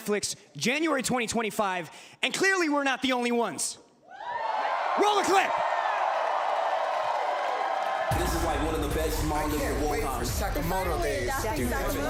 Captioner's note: cheering